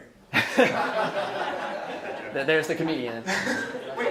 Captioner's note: laughs